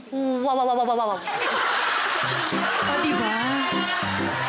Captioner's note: laughing